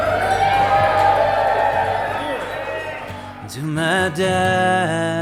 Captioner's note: guests cheer